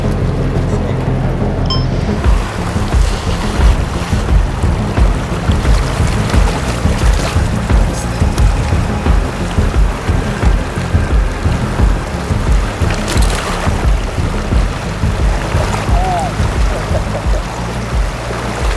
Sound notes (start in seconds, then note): 2.1 dramatic music; 6.0 water rushing